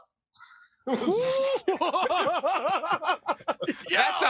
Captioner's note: all laugh